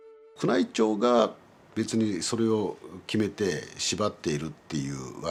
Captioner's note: speaking in Japanese